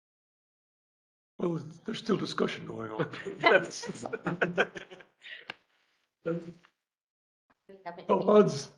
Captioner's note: laughter